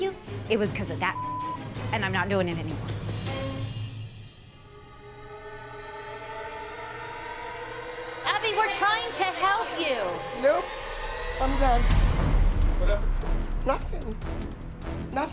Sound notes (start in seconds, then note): 10.8 crying